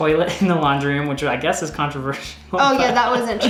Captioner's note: laughs